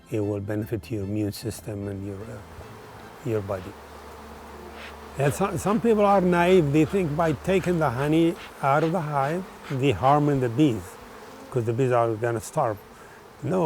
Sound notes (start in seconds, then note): 3.9 gentle bee humming